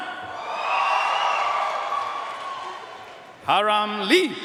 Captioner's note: audience cheering and applauding